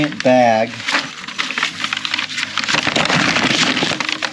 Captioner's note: paper bag rustling